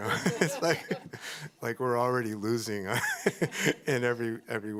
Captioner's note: laughs